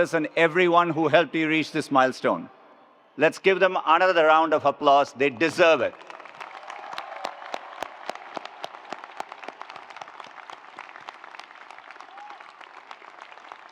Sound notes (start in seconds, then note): 5.8 attendees applauding; 6.2 attendees cheering